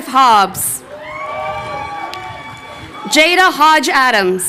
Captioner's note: crowd cheering